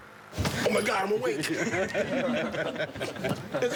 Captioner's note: laughing